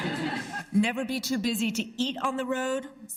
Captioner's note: laughter